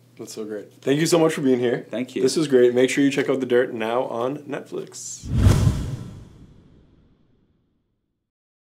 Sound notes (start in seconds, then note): 5.2 swoosh